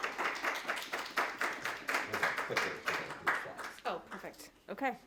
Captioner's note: crowd clapping